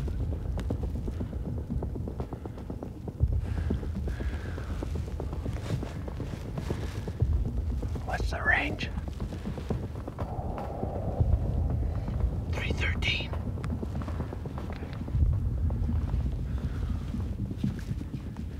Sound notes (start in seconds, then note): 7.7 whispering; 10.9 whispering